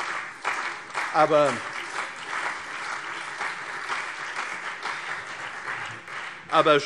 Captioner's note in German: Beifall CDU und BÜNDNIS 90/DIE GRÜNEN